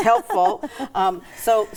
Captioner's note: laughing